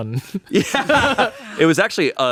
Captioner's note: laughs